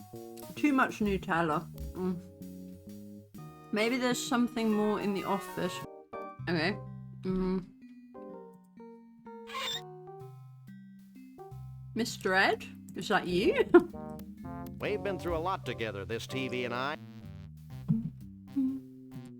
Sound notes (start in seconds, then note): 9.4 squeak; 13.2 laughing